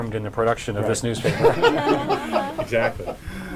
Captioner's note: laughter